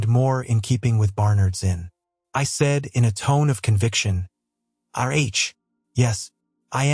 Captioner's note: in a tone of conviction